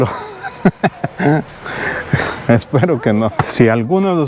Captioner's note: laugh